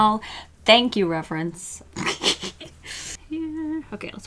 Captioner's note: laughs